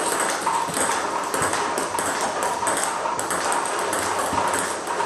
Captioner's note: ball ping pong hitting continues